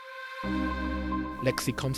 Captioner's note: voiceover